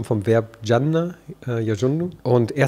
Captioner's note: Er spricht arabisch